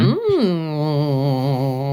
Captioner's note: making ghostly noises and chuckling darkly